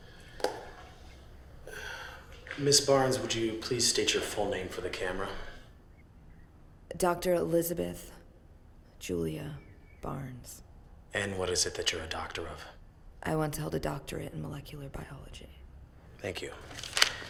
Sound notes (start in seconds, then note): none